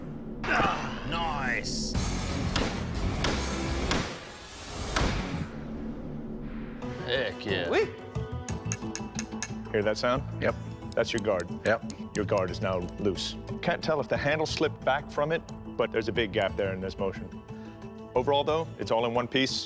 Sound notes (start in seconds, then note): 8.4 tapping